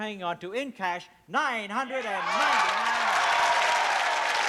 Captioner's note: applause